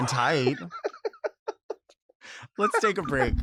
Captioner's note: laughs